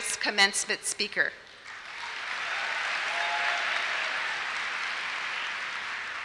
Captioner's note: applause